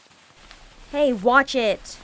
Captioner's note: shuffling